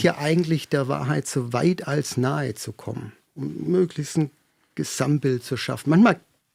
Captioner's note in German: räuspern